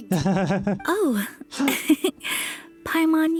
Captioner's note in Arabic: ضحكات خافتة